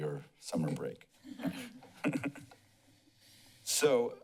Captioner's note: laughs